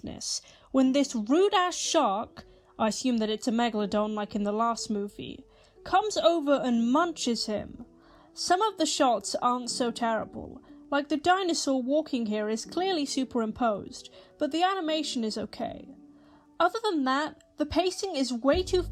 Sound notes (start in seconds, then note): none